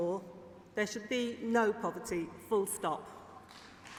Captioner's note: applause